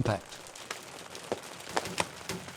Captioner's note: beating hailstones